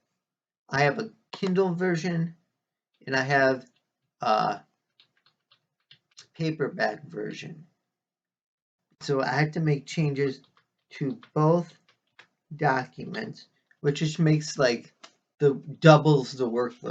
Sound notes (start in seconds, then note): 1.4 click of trackpad; 11.0 tapping of keyboard